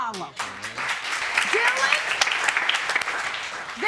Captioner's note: audience applauding